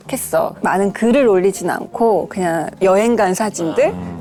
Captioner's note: speaking bashfully